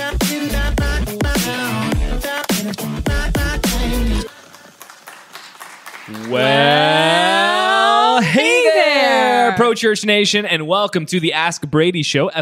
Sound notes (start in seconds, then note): 4.2 applause